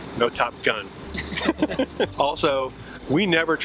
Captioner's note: chuckling